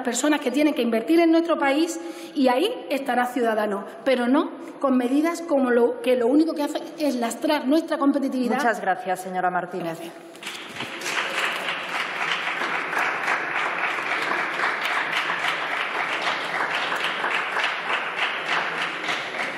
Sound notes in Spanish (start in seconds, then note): 10.3 Aplausos